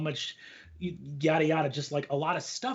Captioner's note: blabs softly